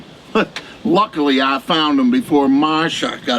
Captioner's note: laughs